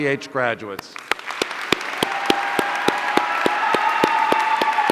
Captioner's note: audience cheering